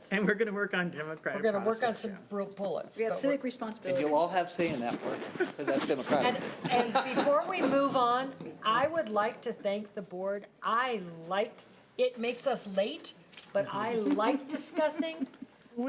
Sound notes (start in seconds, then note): 5.3 laughing